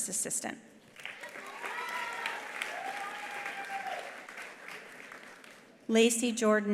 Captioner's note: attendees applauding; attendees cheering